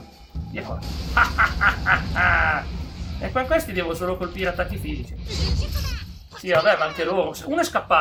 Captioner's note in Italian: risate